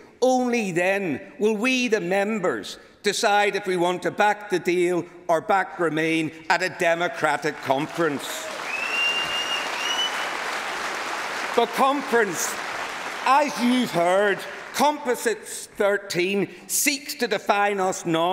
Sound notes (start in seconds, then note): 15.2 applause